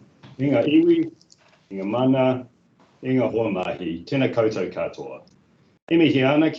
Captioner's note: speaking in te reo Māori